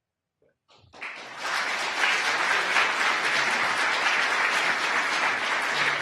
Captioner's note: audience applause